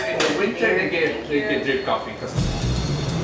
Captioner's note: chatter; jazz music